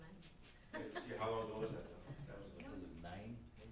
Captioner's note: background Discussion